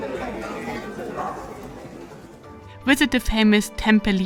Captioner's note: people chattering